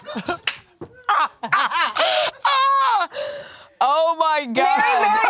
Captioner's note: girls laughing